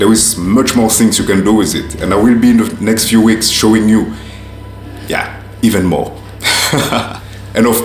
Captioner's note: laughs